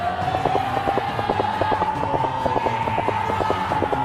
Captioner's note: battle sounds